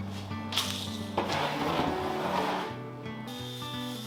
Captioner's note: wood crunching; gentle music